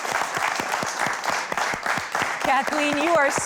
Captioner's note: audience clapping